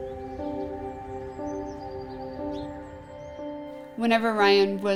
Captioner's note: birds chirping